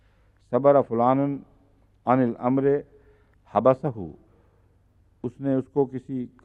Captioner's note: Arabic